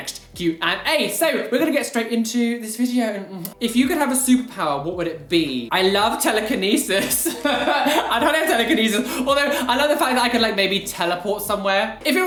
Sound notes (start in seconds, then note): 6.9 laugh